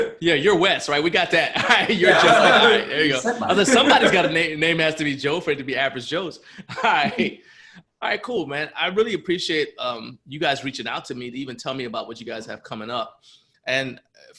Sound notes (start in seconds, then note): 0.0 laughs; 3.4 laughter; 6.4 laughs